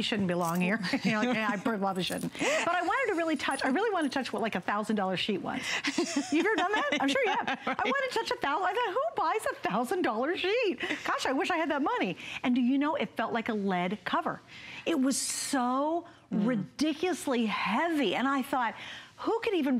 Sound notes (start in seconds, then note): 0.8 laughter; 5.8 laughter